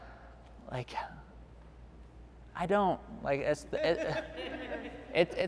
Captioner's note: laughing